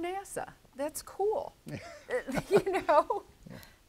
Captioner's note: laughs